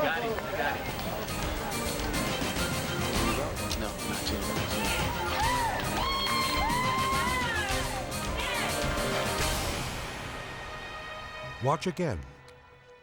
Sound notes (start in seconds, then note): 4.5 group cheers